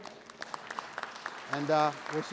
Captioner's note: audience applauding